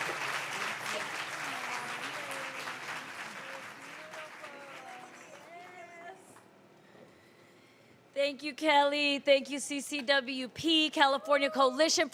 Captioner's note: applause